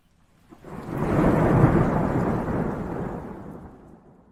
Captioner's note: thunder rumbling